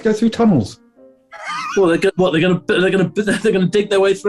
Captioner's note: sniggering